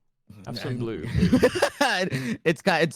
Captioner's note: laughs